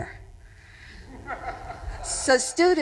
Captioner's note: audience chuckling